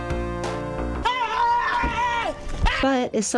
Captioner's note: screaming